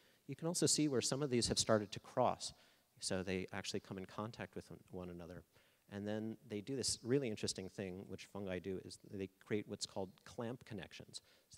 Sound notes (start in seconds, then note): none